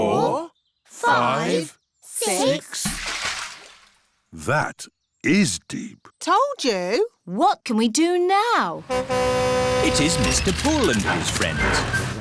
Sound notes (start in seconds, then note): 2.7 splash; 8.8 horn honks